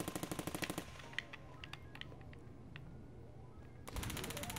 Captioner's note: gunfire rattling from video game; controller clacking; gunfire rattling from video game